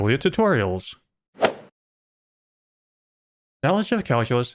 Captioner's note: golf ball hit sound